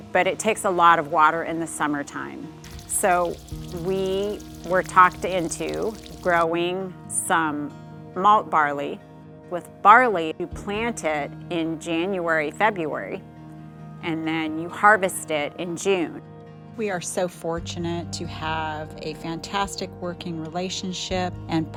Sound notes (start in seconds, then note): 3.0 water sloshing